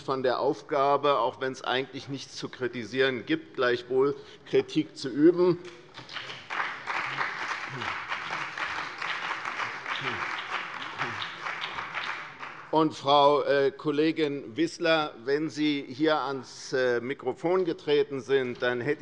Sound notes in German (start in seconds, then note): 5.7 Beifall bei der CDU und dem BÜNDNIS 90/DIE GRÜNEN